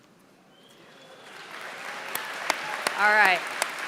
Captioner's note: applause